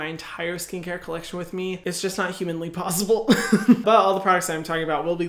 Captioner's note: laughs